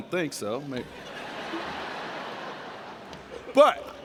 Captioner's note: laughter